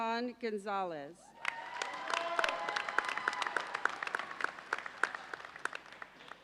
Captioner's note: audience cheers and applauds